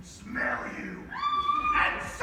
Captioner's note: scream